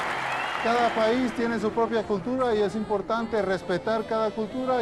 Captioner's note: audience cheering; speaking Spanish